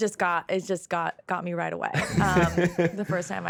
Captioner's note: laughing